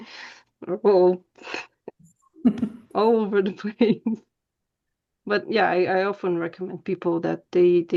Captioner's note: laughter